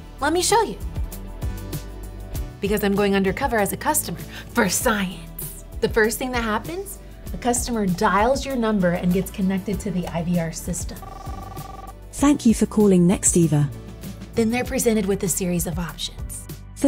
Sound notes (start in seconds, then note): 1.5 gentle upbeat music; 11.0 dial tone ringing